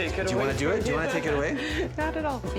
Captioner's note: laughs